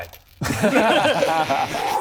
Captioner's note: unconvinced laughter